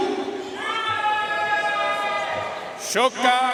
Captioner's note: audience cheering and applauding